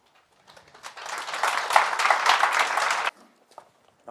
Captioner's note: applause